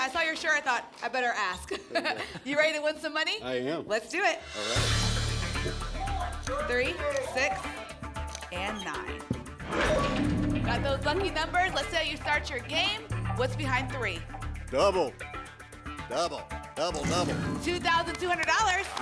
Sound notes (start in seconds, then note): 9.6 lock sound